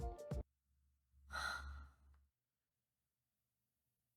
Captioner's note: sighs